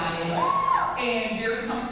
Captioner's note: audience member cheers